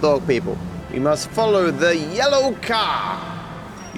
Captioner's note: voice echoes